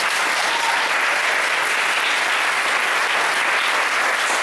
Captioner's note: whoops and clapping